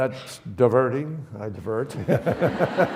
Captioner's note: audience laughs; chuckles